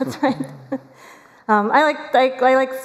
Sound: laughter

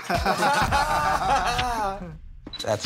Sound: laughter

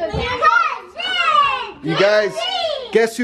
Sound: kids yelling excitedly

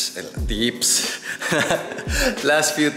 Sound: laughs

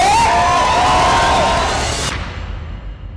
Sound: crowd cheers; pop music playing

